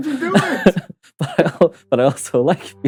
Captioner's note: laughs